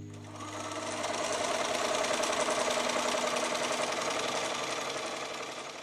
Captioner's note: stitching Sounds